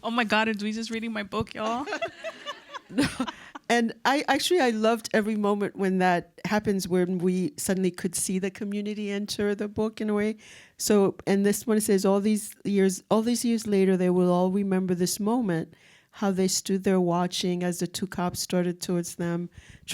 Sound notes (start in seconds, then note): 1.7 audience laughs